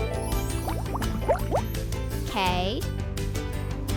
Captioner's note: bubbles noise